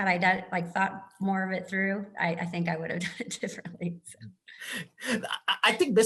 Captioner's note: laugh